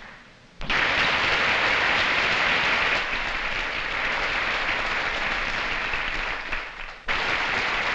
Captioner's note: applause